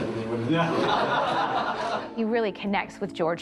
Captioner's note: all laughing